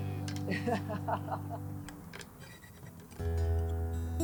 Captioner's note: laughing